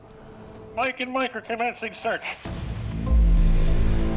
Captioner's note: radio transmission